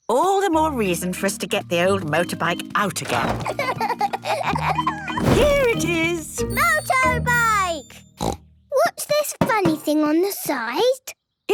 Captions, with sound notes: - All the more reason for us to get the old motorbike out again. Here it is! - Motorbike! (snort) - What's this funny thing on the side?